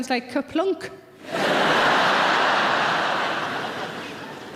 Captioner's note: laughing